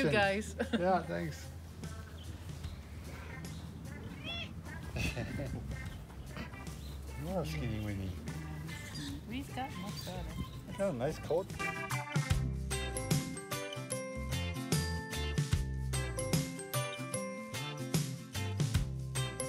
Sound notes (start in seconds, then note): 3.9 cat meowing; 11.7 bright music